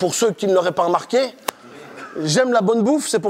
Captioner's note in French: Rires